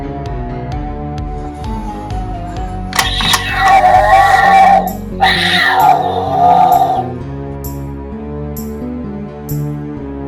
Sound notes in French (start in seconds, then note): 2.9 hurlement de chat; 7.5 musique effrayante